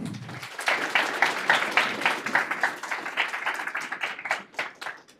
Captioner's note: audience applauding